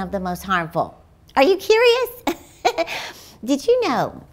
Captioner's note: laughs